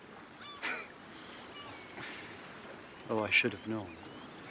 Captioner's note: laughs